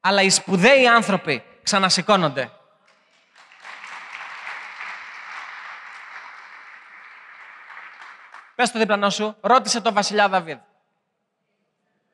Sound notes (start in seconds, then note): 2.9 applause